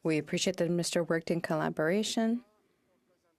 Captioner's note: speaking in French